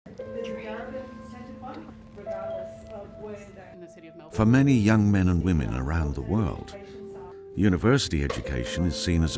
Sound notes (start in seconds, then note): 0.4 slow piano music; 3.7 voiceover